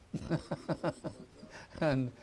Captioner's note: laughter